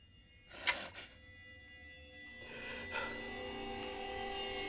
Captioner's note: tense eerie music; gun clicks; Mark panting; eerie music